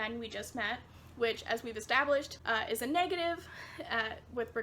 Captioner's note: laughs